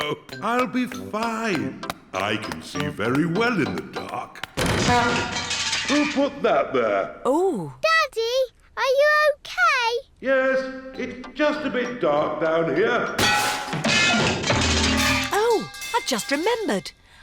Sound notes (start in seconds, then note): 2.1 crashing; 13.2 clanging and crashing